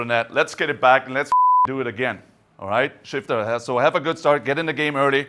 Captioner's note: beep